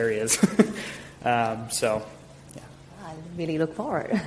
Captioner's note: chuckling